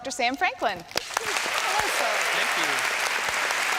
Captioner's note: applause